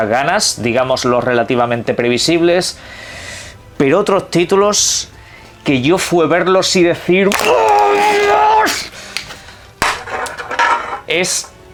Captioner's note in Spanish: grita